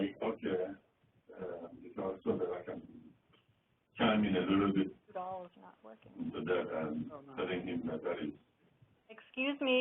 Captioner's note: continued speaking in the background